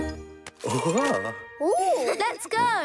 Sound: sighing; laughing

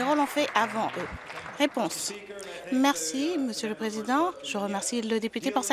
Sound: applause

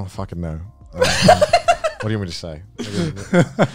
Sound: laughs

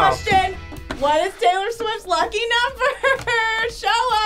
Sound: laughs

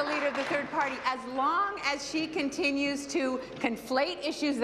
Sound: applause

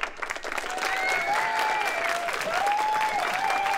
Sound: applause

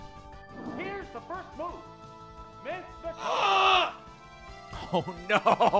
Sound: screams

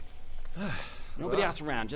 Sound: sigh

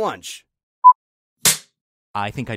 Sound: beep

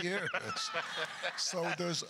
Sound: laughs

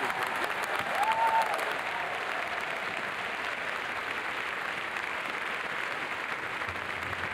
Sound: people cheering; people applauding

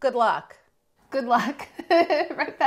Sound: laughs

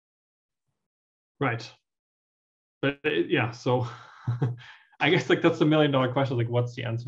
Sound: laugh

